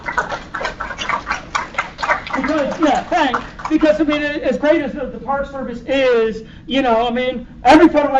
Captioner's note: applause